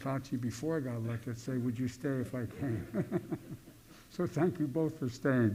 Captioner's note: laughter